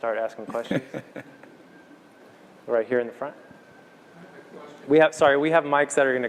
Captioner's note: laugh